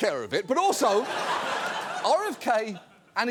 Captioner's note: audience laughs